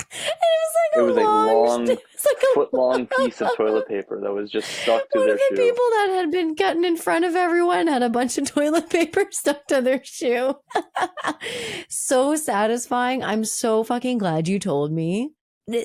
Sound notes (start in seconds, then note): 0.1 cackling; 10.5 laughing